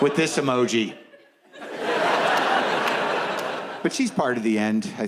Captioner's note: audience laughs